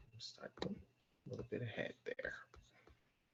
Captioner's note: clicking